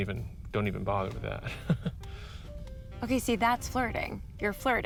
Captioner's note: chuckles nervously